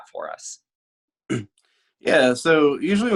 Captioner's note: clears throat